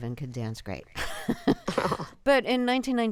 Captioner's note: laughter